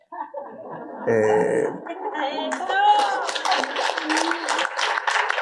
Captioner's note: audience laughing and applauding